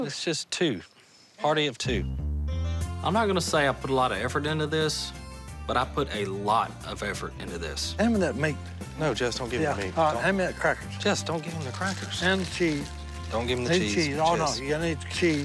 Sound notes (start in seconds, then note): none